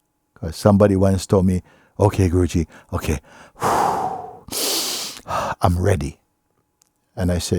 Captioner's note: deep breaths